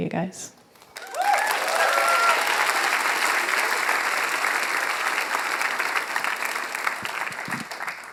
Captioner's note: applause